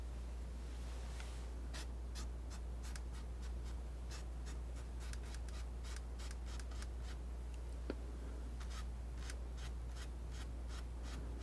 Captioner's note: scratching